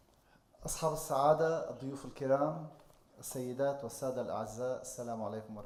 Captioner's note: speaking in foreign language